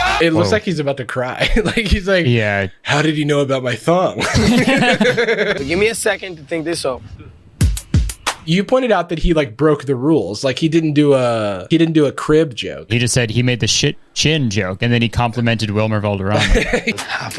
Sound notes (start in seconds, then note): 4.2 pair laughs